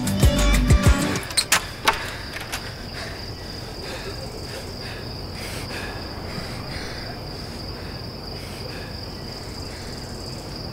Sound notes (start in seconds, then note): 1.1 door clatters; 2.6 panting